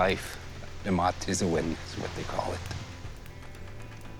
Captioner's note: speaking Ojibway